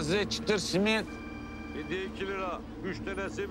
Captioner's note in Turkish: Telefon çalıyor